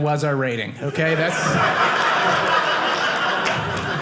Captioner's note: audience laughing